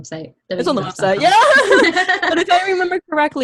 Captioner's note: laughs